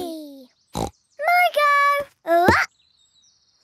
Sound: snorts

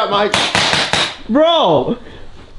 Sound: gun bangs

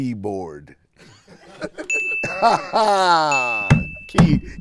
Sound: laughing

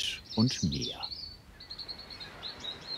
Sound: birds chirping

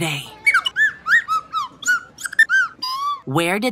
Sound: Billy chirps

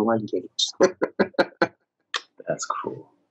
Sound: laughs

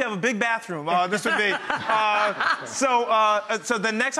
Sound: all laughing

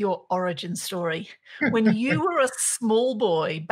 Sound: laughing

